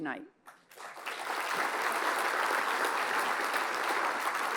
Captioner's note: applause